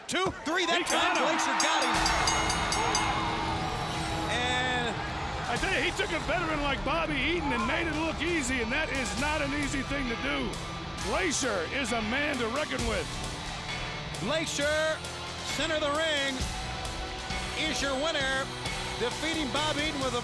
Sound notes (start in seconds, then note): 3.0 bell ringing; 6.8 crowd cheering